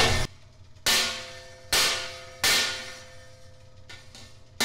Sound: hammer clanging

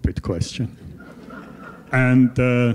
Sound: laughter

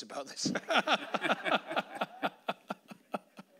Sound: laughing

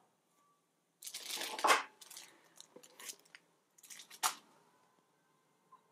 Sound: rustling

